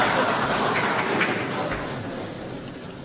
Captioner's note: laughter